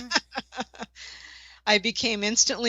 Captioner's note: laughter